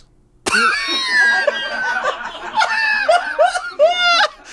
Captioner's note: laughs